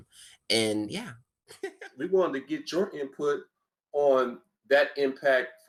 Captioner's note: laughs